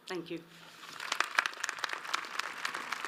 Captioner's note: audience applauds